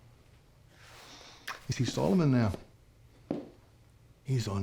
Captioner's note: scottish accent